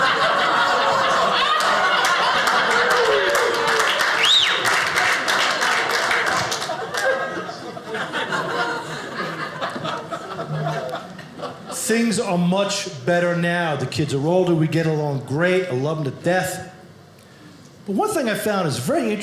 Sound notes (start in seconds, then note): 0.0 audience laughing; 3.0 audience applauding